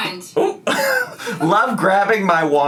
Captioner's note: laughs